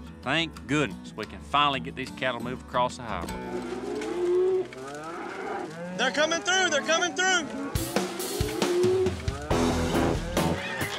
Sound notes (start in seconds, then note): 3.4 mooing